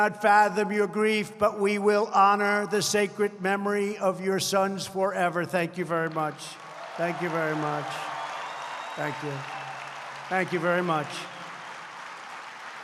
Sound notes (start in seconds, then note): 5.9 applause